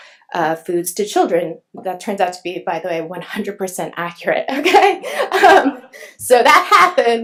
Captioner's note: laughs